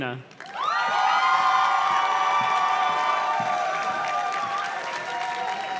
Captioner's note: audience cheers and claps